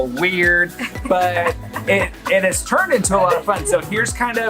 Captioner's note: laughs